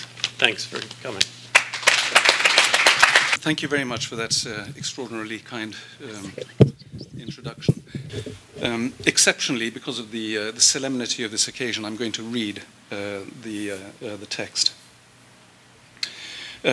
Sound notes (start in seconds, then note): 1.5 applause